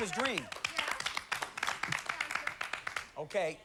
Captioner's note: scattered applause